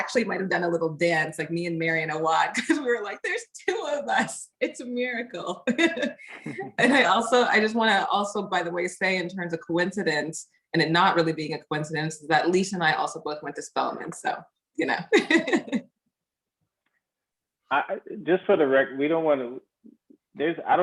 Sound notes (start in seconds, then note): 5.8 laughs; 15.1 laughs